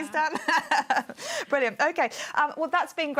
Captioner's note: laughs